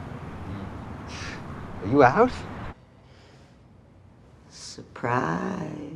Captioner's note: scoffs